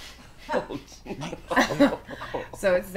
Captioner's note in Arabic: مجموعة تضحك